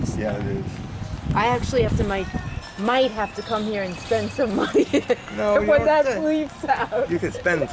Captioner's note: laughs